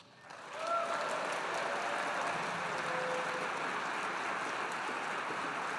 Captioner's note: audience cheering and applauding